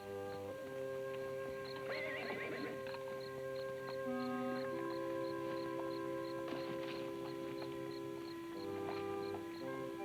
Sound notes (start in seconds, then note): 0.2 gentle music; 1.8 horse whinnies; 4.4 gentle music